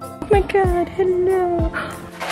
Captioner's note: gasp